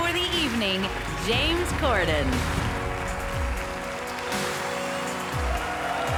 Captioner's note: audience applauds